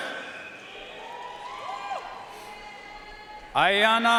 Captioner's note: audience cheering and applauding